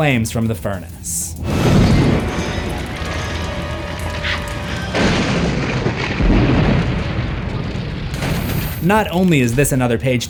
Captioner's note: explosions